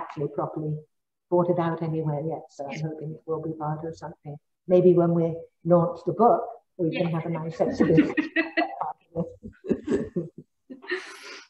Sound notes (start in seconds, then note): 7.7 both laughs